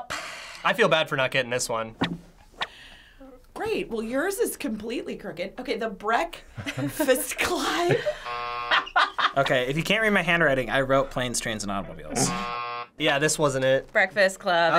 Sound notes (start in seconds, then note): 8.2 buzzer; 12.2 buzzer